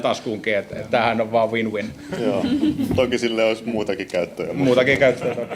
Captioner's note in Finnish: naurua